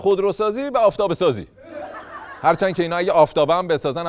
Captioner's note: laughter